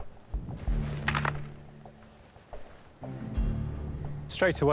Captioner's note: metal clanging